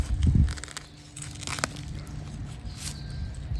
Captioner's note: nats digging